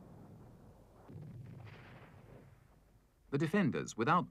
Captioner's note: weapons firing